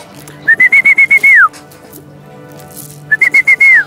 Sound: whistling

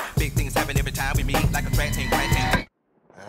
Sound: heat vision charging

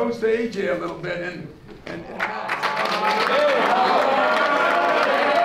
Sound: players clapping and cheering

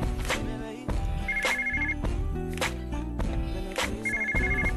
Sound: phone ringing

